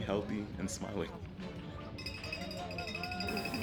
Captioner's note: bell ringing and applauding